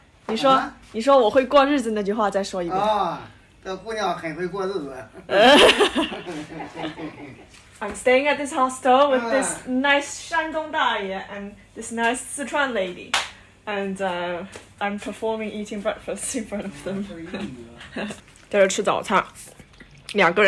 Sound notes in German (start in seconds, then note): 5.0 lachen